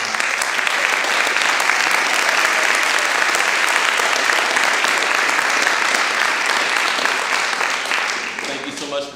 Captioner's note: applause